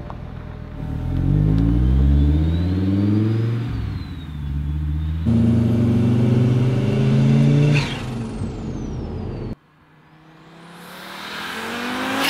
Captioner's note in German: Car Sound